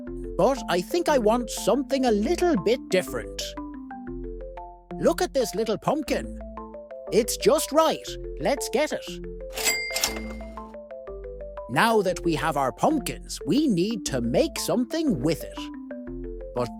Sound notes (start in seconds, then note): 9.5 ka-ching